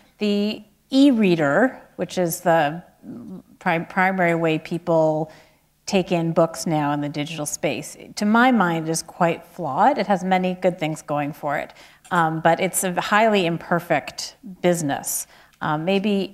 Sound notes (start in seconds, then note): none